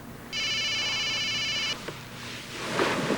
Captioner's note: cellular phone rings